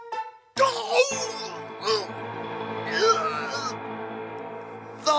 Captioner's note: Pyramus moans in pain